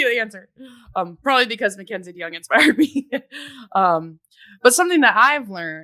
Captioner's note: voice drowned in giggles